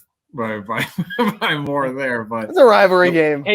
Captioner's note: laugh